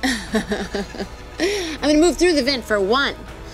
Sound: laughing

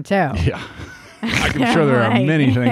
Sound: laughs

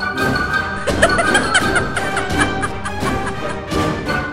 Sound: guffaw

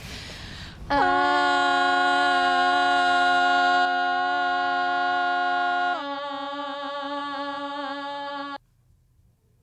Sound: droning

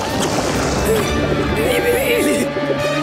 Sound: groaning; gasping

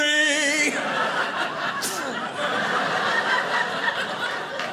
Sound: audience laughing

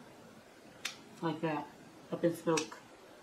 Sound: snapping; snaps fingers

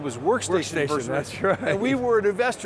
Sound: laughs

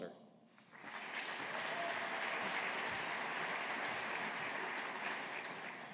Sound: audience applauding

